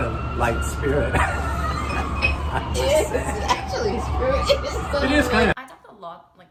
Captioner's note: laughing; laughs